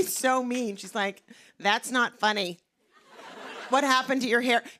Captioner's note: light laughter